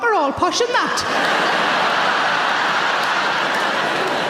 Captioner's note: audience laughs